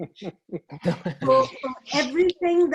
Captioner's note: laughter